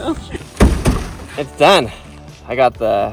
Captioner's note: taps